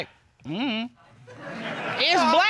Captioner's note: audience laughs